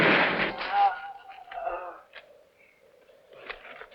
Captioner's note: moaning